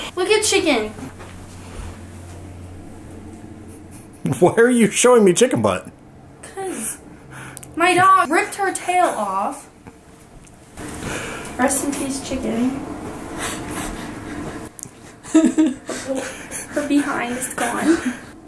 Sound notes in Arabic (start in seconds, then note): 3.6 يضحك